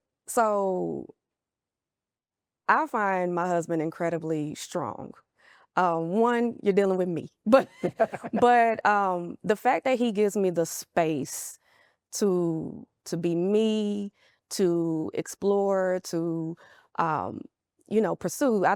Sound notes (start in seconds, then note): 7.5 both laughing